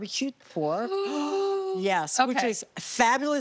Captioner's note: exclaiming in excitement